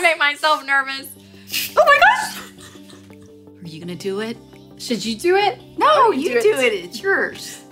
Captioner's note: pot hisses